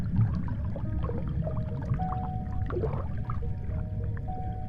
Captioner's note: water sloshes